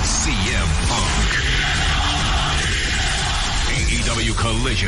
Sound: CM Punk chants

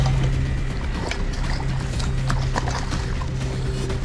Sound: water splashing

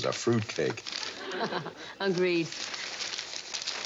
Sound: <i> chuckling</i>

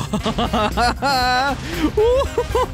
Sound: laughter

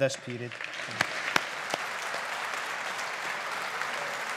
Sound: audience applauding

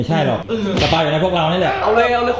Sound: pat

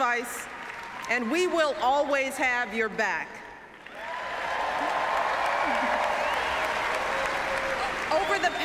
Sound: applause

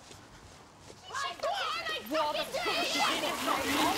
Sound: girls shouting, running

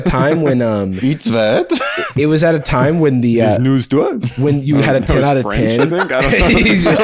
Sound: German accent

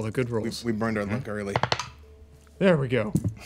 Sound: dice rolling

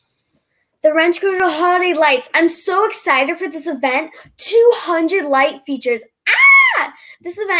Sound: screams

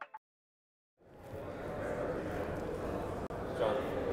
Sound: attendees chatting indistinctly

